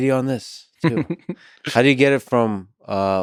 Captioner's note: Tim laughs